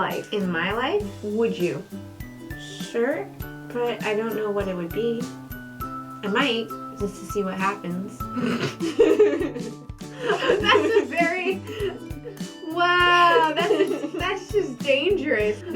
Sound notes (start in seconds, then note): 8.3 snort; 8.4 laughter; 10.2 laughing